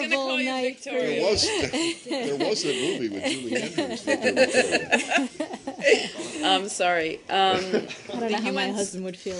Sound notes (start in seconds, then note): 3.1 laughter